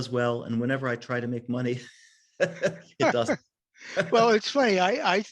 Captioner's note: laughs